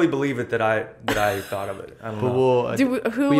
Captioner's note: laughter